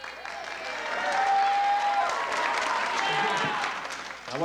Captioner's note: applause